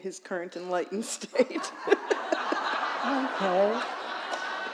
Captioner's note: laughter